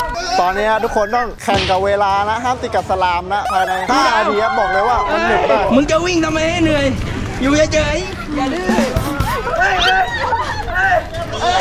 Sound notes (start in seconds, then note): 7.8 laughs; 9.2 shouts